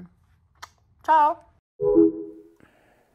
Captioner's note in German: Kusslaut